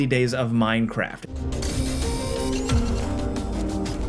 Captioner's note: laser whirring